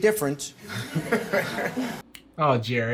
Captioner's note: audience laughing